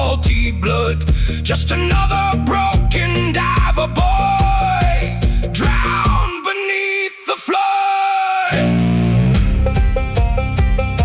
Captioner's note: music and singing; screaming